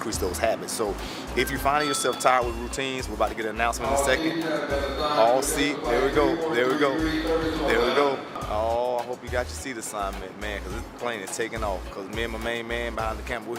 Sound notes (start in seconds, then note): 3.0 bell dinging